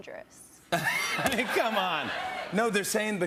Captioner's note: laughs